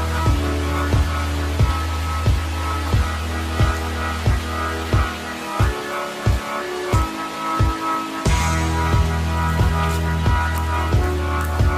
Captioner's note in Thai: ปรบมือ